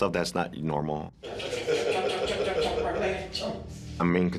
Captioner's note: vocalizes